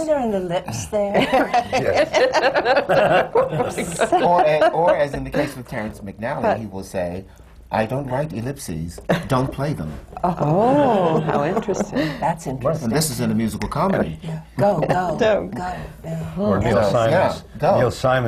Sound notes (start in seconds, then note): 0.0 laughter; 1.1 laughs; 10.4 laughter